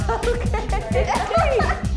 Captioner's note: laughs